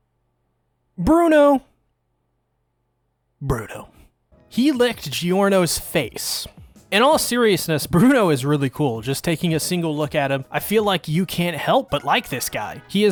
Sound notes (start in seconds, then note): 3.4 pause